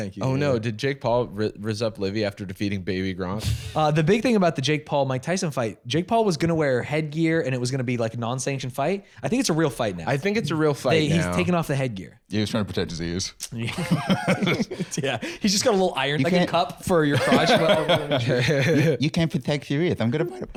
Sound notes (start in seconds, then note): 13.6 laughing